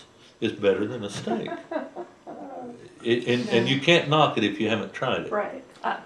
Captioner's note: laughter